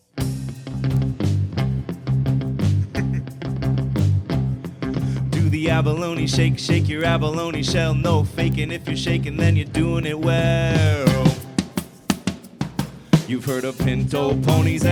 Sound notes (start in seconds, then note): 0.3 upbeat rock music; 2.6 laughs